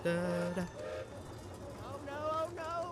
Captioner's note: skiff hums a tune; gilbert whistles in distance